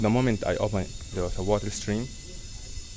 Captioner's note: noise of water line coming on